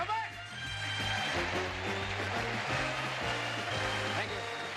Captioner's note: applause